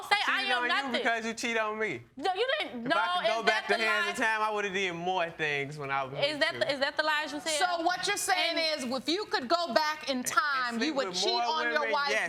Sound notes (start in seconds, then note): 1.6 stutters